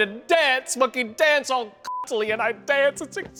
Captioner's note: beep